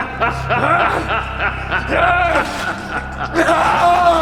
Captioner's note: laughs maniacally; cries in pain